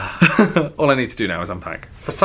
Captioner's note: sighing; chuckling